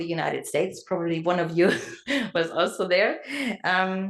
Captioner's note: laugh